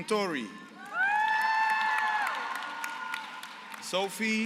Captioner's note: applause